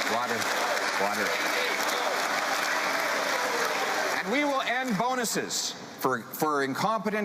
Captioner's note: cheering